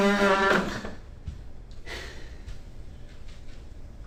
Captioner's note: Nev huffs